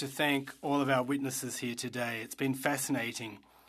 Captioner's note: speaking French